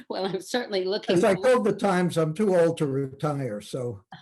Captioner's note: laughing